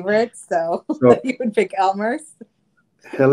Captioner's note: laughs